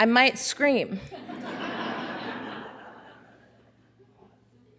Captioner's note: audience laughing